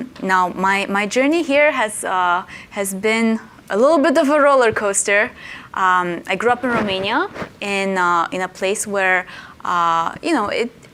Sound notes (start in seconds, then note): none